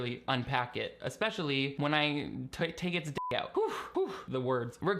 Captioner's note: beep